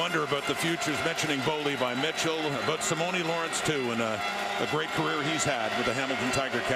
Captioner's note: crowd Noise